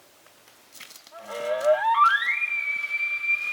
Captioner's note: caller bugling